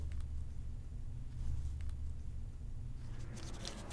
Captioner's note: traffic humming